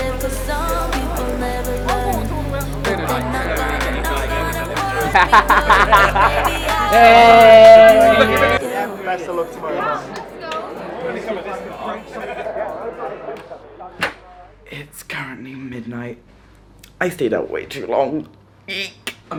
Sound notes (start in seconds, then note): 1.3 drunk celebrational shrieks